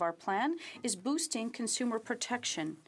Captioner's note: speaking French